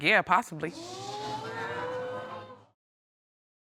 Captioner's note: audience gasps